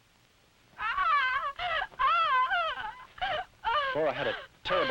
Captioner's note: Flora shouting